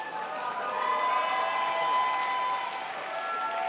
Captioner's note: crowd applauds